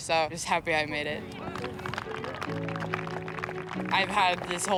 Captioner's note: crowd applauds